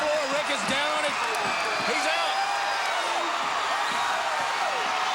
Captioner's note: crowd cheering